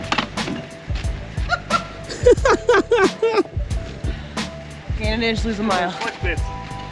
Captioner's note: laughter